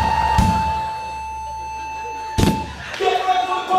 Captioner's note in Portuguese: bipes acelerados; chimbal; tambor; bipe de parada cardíaca